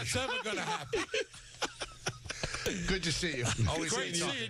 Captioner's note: laughing